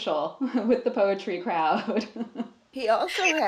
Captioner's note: laughs